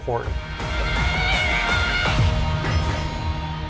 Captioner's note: screaming